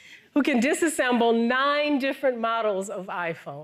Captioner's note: none